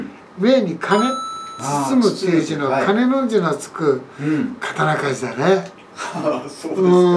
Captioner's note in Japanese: 苦笑